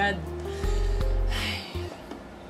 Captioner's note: sigh